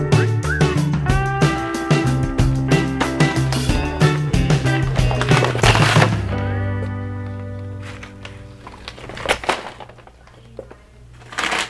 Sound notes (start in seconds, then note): 0.0 bright cheerful music; 0.0 whistle; 4.4 paper bags crinkling